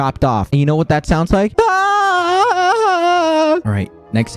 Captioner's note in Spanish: sonidos de pura agonía y dolor